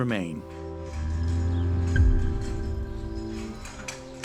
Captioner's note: cows bellowing